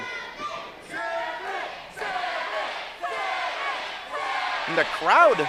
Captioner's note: crowd chanting Savage